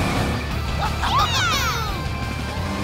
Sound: cheering

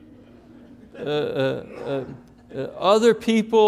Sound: congregation laughing

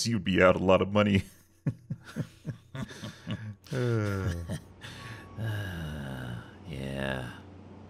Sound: awkward laughing

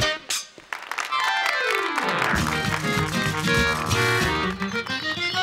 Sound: applause

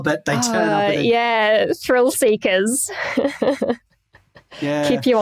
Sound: chuckles

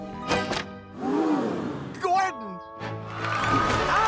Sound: all exclaiming

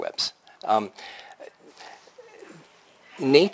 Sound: pause

